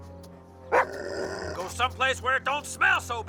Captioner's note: Buck barks; growls